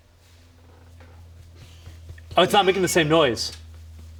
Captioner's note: fist tapping